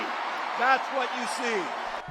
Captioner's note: applause; cheering